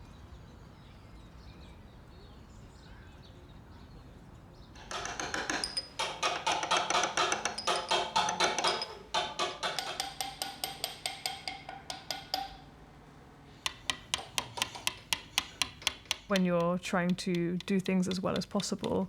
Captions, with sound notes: [loud chisels] When you're trying to do things as well as possible